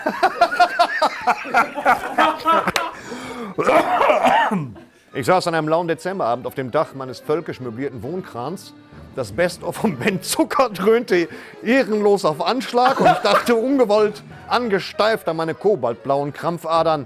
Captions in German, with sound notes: (Rasselndes Husten) Ich saß an einem lauen Dezemberabend auf dem Dach meines völkisch möblierten Wohn-Krans. Das Best-of von Ben Zucker dröhnte ehrenlos auf Anschlag. Und ich dachte ungewollt angesteift an meine kobaltblauen Krampfadern,